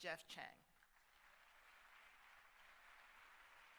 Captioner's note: applause